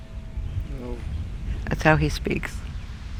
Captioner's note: quietly